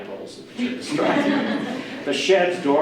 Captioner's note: audience laughter